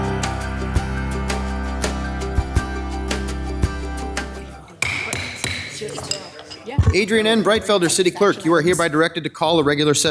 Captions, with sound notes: (joyful music) (gavel banging) - Adrienne N. Breitfelder city clerk, you are hereby directed to call a regular